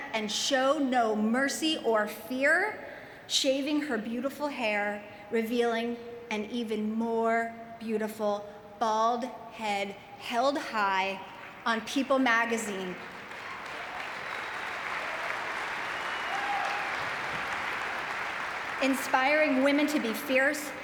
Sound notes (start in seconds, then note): 13.0 audience cheering and clapping